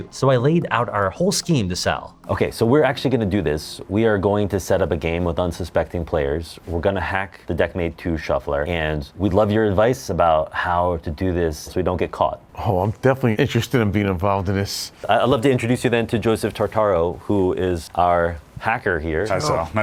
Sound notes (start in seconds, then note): none